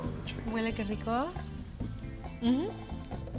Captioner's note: speaks Spanish